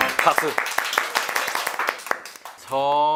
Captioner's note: A round of applause